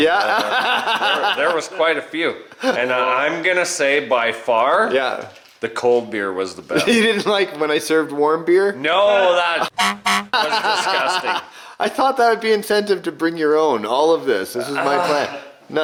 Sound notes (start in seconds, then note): 1.0 laughs; 9.7 horn honking; 10.3 laughing